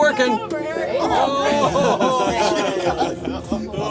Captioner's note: team laughing